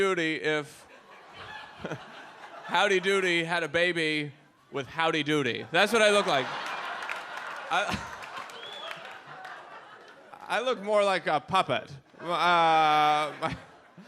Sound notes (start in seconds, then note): 5.6 audience laughs